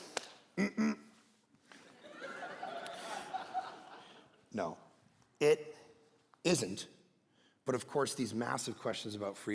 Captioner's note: congregation laughing